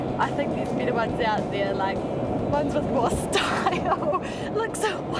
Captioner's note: laughs